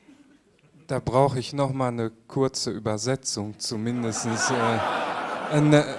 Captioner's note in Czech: smích